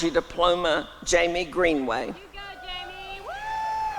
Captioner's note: applause and cheering